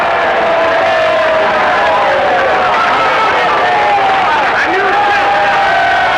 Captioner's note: audience applauding; audience cheering